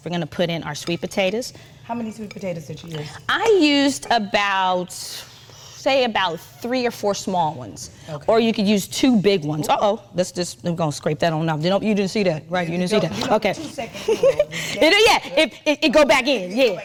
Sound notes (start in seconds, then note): 13.9 chuckling